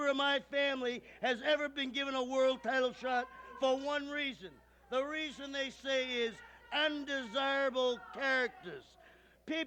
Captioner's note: none